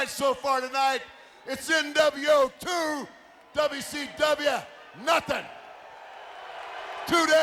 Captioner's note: crowd cheering